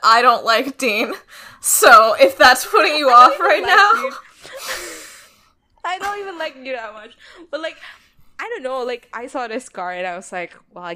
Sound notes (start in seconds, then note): 2.8 laughs